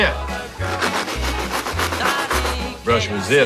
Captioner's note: brush scratching